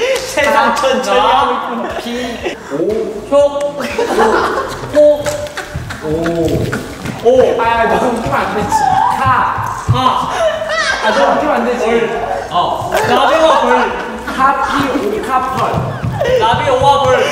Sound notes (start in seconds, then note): 8.8 thump thump